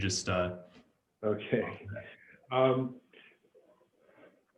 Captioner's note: chuckles